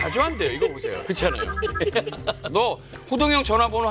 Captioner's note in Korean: 끼룩끼룩